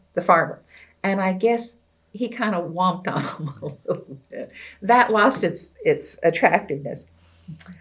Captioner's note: laughs